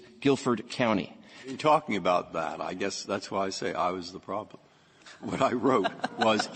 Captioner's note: laughter